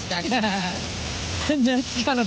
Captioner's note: laughing